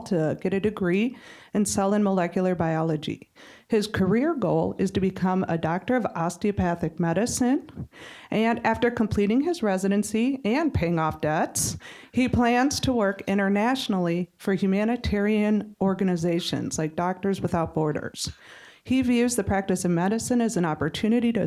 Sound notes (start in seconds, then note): none